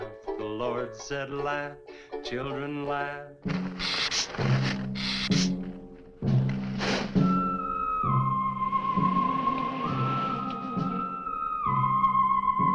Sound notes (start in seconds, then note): 3.5 dramatic music; 4.9 lizard hissing